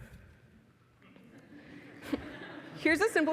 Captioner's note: laughing